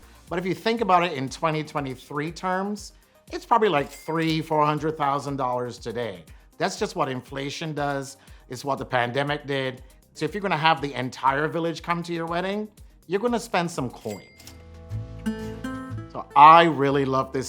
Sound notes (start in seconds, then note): 14.0 bell dings; 14.3 romantic music